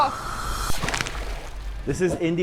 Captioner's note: water splashing